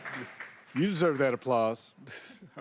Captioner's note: applause